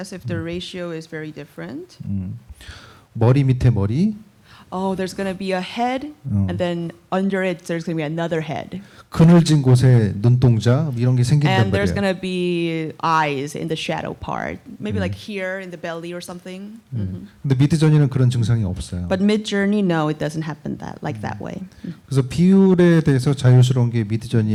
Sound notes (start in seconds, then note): 8.8 speaking korean; 17.1 speaking korean; 22.1 speaking korean